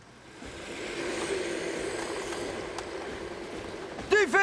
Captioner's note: ethereal growling; upbeat military music